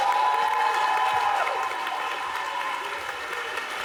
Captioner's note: audience applauding